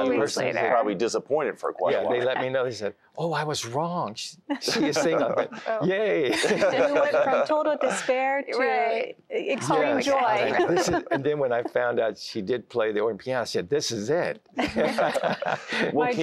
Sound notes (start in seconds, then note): 6.2 laughter; 10.4 giggling; 14.5 laughter